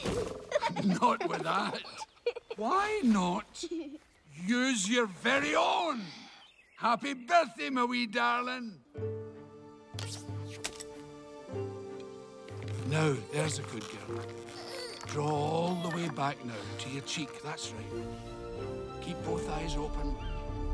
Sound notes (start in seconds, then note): 3.0 girl laughing; 12.1 slow upbeat music